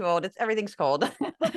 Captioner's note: laugh